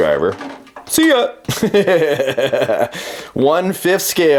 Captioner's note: laughs